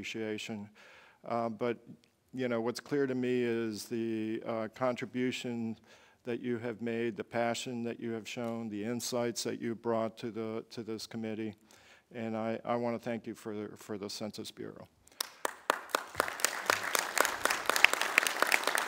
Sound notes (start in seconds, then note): 15.1 applause